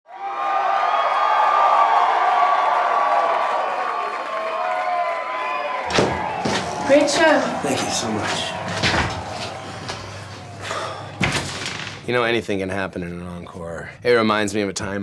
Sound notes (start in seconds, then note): 2.9 applause